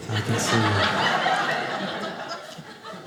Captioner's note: audience laughing